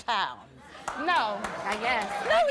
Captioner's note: applause